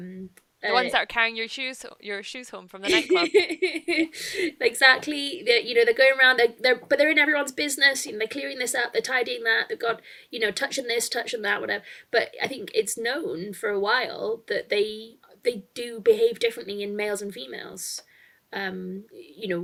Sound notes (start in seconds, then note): 2.8 laughs